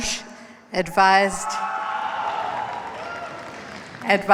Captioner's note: cheers, applause